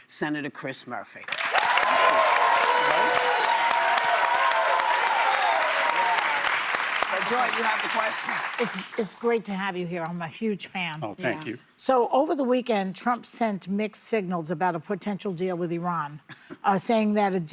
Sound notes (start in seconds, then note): 6.0 applause